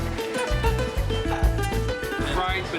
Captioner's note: laughing